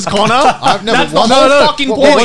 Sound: chuckling

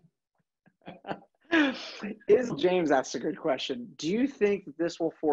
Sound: laugh

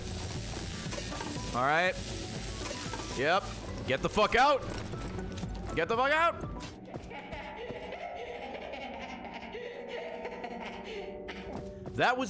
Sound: disembodied laughter

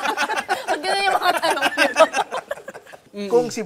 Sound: laughter

